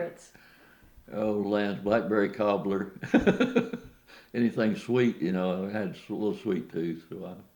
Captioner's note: laughs